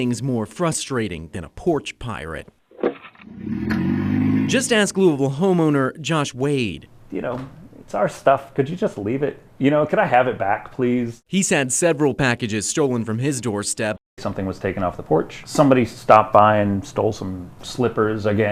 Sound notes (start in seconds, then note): 3.2 engine rumbling